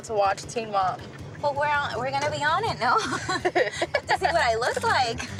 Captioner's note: laughs